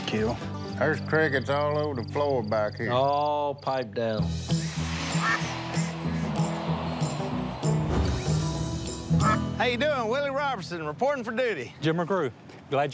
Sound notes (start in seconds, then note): 5.2 ducks quacking